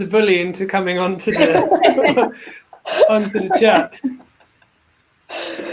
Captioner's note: laugh